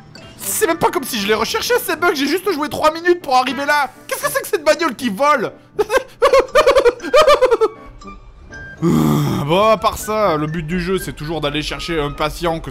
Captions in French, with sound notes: C'est même pas comme si je les recherchais ces bugs j'ai juste joué 3 minutes pour arriver là. Qu'est-ce que c'est que cette bagnole qui vole ? *rire nerveux* Bon à part ça, le but du jeu c'est toujours d'aller chercher un patient